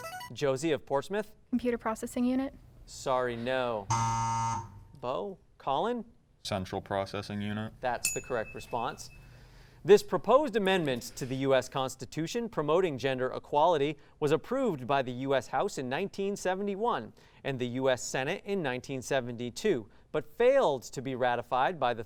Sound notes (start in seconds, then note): 3.8 buzzer sound; 8.0 ding sound